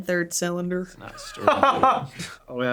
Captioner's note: laughing